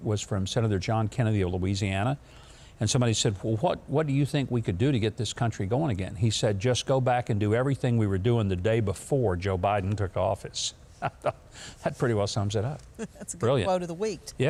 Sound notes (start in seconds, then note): 11.0 chuckles